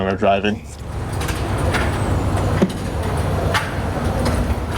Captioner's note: metal clunking